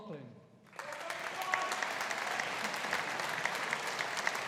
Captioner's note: audience applauding